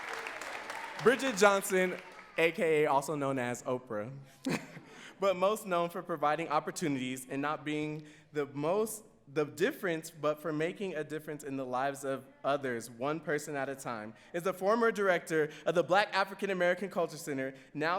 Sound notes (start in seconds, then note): 4.4 laughs